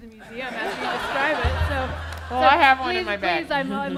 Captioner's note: laughter